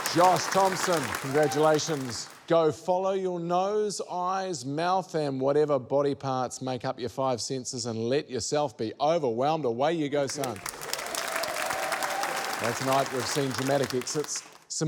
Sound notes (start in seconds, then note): 0.0 cheering, applause; 10.3 cheering, applause